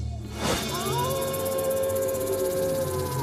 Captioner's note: wolves howling